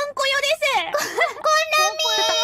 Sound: laughs

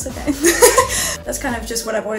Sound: laughs

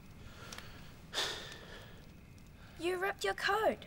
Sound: Jess sighs

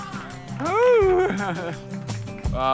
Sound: chuckles

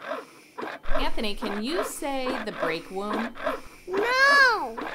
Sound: voiceover

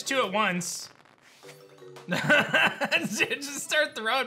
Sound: laughs

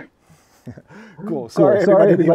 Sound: laughs

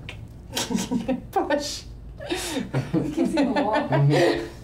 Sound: laughs

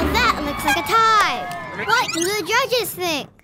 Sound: rewind sound effect

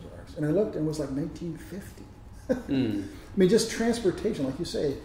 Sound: lauhgs

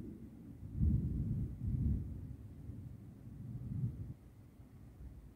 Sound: quiet deep thunder

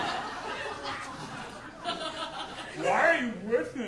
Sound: audience laughing

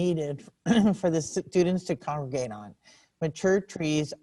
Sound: clears throat

